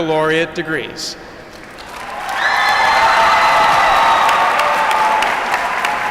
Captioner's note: applause